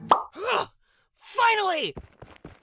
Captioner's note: sighs